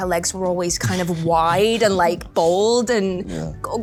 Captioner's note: chuckles